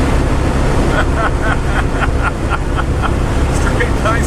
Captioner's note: laughs